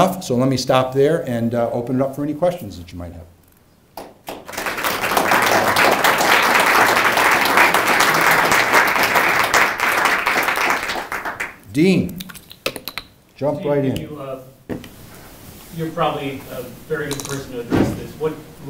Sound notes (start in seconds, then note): 4.0 applause